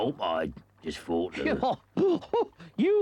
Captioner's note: Toad laughs